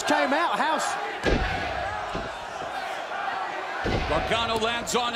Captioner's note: crowd chatter